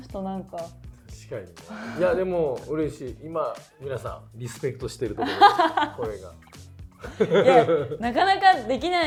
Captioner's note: laughs